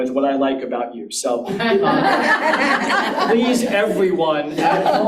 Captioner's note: audience laughs